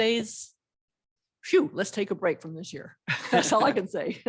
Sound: laughter

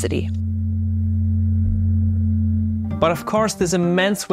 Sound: electricity humming

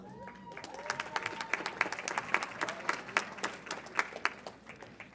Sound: audience applauds

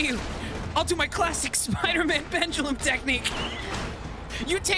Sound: laughing

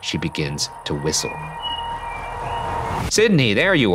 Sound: soft whistling

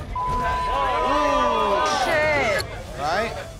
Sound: loud chatter

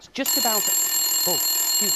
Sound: telephone rings

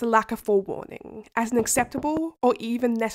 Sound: sound of knocking at window

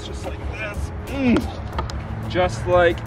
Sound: grunting

